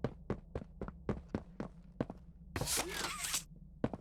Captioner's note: footsteps